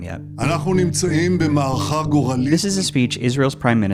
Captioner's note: Netanyahu speaks foreign language